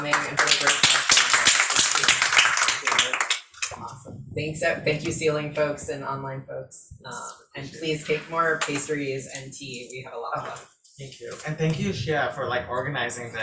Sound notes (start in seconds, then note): 0.0 audience applauds